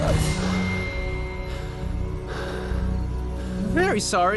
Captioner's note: heavy breathing